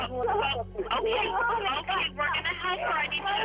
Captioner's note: on phone